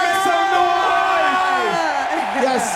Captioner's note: crowd cheering